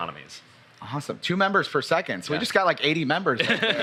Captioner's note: laughs